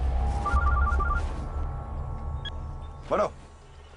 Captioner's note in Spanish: Suena el celular